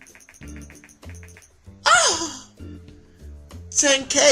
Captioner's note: orgasm